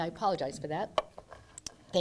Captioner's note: coughing